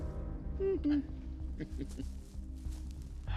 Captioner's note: peekaboo sound; sighs